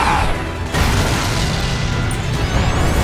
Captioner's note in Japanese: 衝撃音